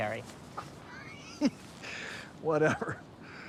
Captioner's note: detective laughs